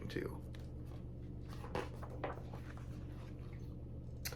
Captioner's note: page turns